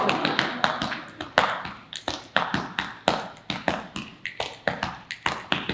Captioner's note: audience laughing; body beating and snapping continues